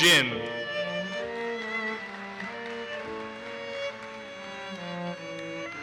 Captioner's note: audience applauses